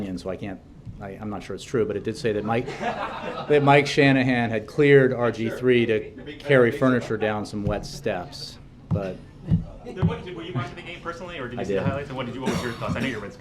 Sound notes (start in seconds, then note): 2.6 laughter